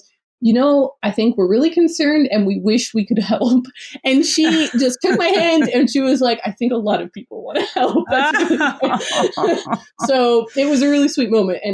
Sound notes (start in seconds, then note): 4.3 laughs; 7.6 laughs